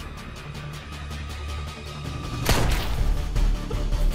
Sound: gunshot

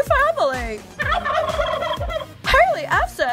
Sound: gobbling

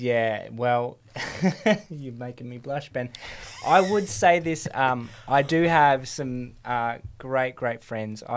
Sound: chuckles

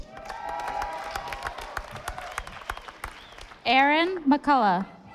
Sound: audience applauding

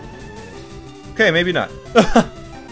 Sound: laughs

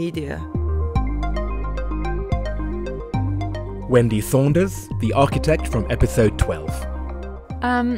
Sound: voiceover

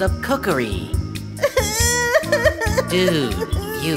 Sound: Maya cries loudly

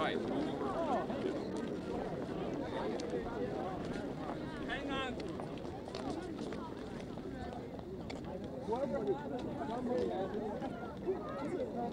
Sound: ambient noise and chatter

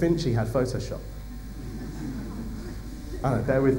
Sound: laughter

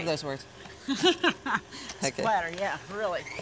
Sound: laughs

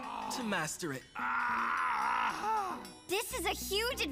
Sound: pained grunts

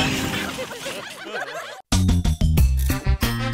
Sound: laughter

